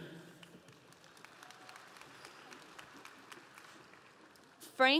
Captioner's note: audience applauding